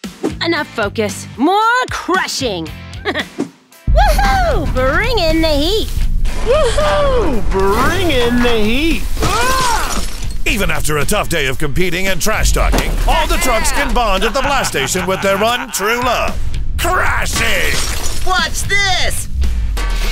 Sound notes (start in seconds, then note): 3.0 laughs; 9.2 screams